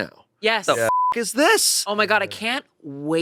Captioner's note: beep